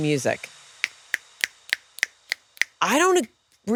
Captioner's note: clicking